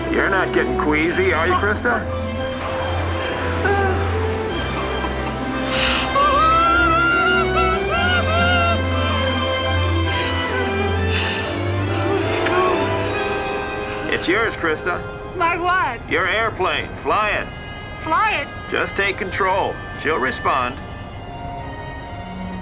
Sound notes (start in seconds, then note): 6.1 screaming